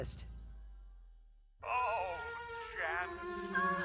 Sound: TV audio

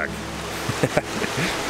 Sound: laughing

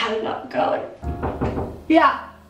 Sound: knocking

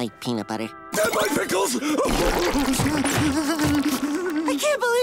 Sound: crying

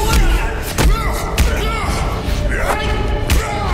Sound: punching

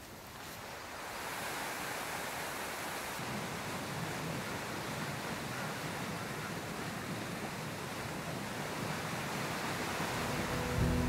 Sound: water rushing

